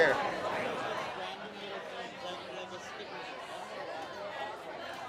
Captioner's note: people murmuring